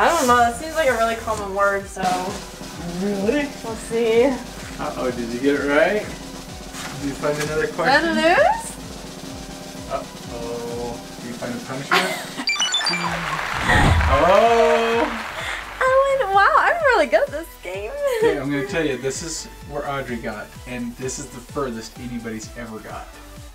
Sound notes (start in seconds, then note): 4.1 drum roll; 12.4 high-pitched beeps; 12.6 applause; 12.6 laughs